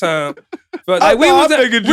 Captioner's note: laughing